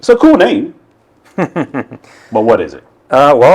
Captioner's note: laughs